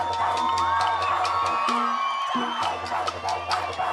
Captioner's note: cheering, applause